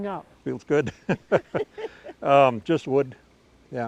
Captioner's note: laughing